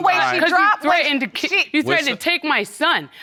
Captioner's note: all arguing